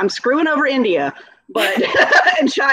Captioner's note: laughing